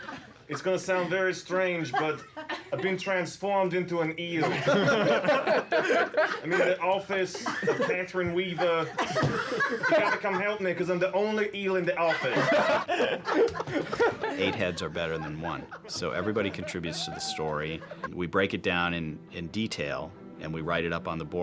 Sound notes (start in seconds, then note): 4.8 laughing